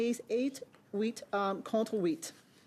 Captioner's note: speaking French